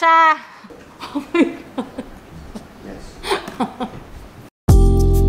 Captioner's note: laughs